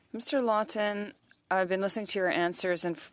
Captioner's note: speaking French